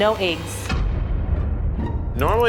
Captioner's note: air rumbles